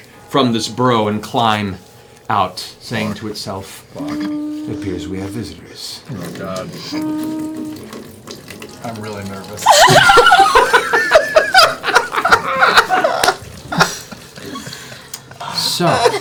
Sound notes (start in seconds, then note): 6.0 sound of liquid pouring; 9.6 laughter